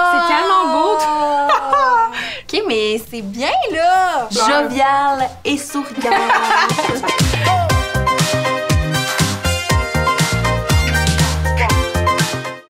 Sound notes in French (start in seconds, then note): 1.4 Rires; 5.5 Musique entraînante; 5.7 Rires